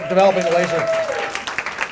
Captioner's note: applause